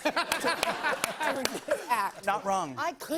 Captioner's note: laughter